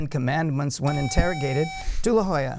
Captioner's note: buzzer